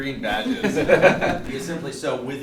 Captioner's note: laughs